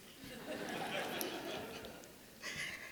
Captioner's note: audience laughing